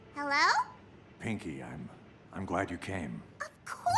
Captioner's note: quiet and subdued voice